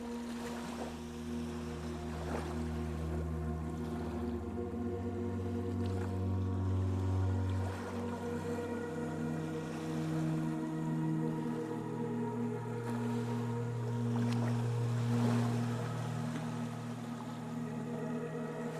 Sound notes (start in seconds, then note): 2.2 waves lapping